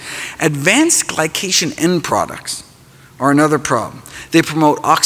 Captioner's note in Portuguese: none